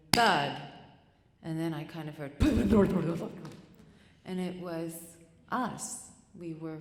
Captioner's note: rumbling noise